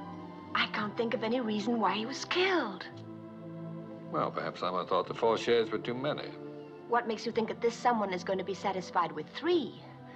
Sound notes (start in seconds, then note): none